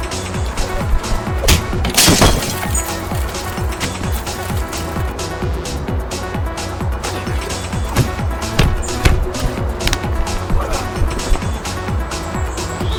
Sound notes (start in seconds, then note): 1.4 glass shattering; 7.6 punches thudding